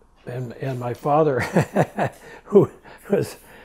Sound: laughs

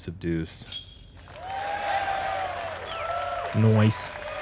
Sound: applause

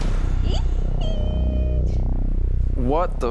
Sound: squeals

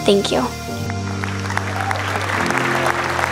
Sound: applause

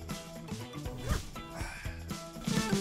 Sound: unzips

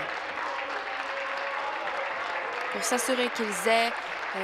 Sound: applause

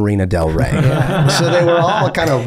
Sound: all laughing

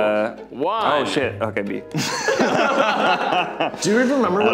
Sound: laughing

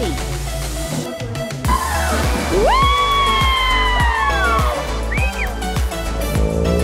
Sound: upbeat music; everyone cheering

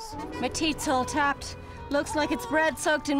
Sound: Irish accent

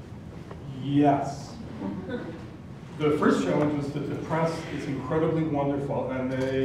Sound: laugh

